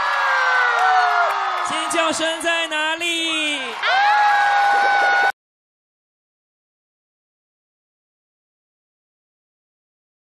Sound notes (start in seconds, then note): 3.7 scream